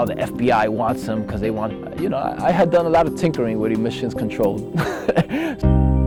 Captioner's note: laughs